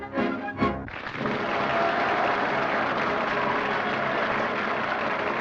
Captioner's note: applause and cheering